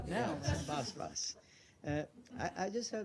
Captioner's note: laughter